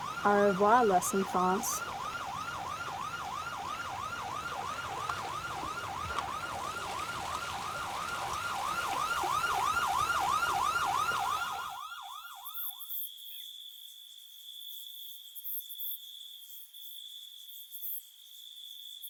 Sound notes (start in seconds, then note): 2.4 sirens wail; 9.8 water splashes; 12.6 crickets chirp